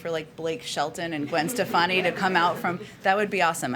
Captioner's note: laughter